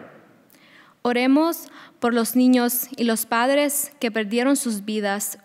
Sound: speaking a foreign language

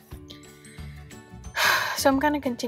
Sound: sighs

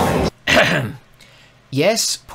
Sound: cough cough

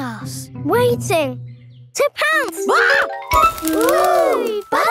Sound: screams

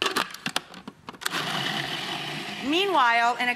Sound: food processor grinding

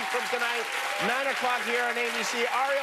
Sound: cheers and applause

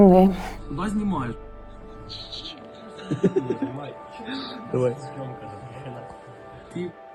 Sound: laughter off-camera

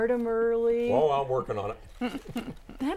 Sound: laughing

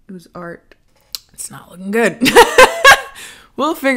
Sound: laughing

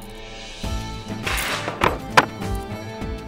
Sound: dragging chair

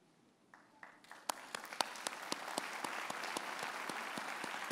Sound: audience applauds

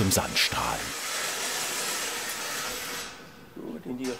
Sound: loud grinding noise

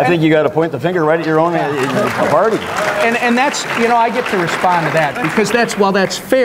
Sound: applause

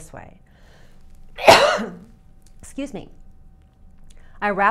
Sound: cough

